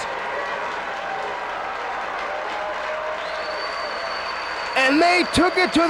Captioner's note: spectators cheering and applauding